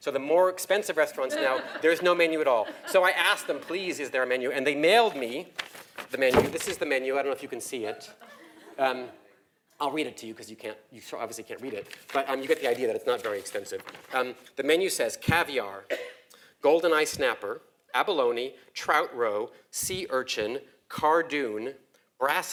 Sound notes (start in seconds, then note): 1.3 laugh; 7.9 laugh